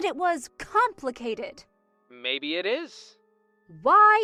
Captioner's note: phone vo